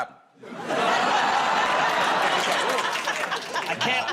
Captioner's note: audience groans